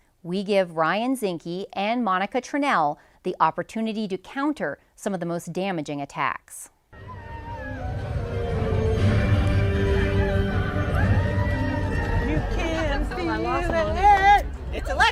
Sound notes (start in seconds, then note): 6.9 triumphant music; 7.0 crowd cheering